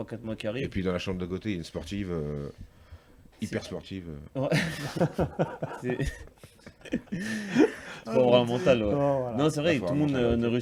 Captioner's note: laughs